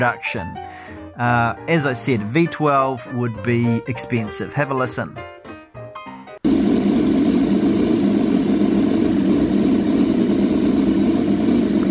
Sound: broom broom sounds

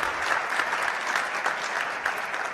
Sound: applause

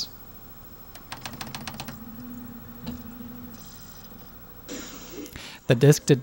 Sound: rapid button presses, quick seeking sound

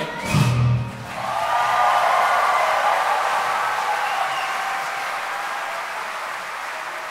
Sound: audience cheering; audience clapping

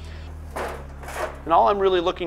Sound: metal clangs

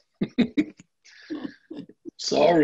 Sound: laughs

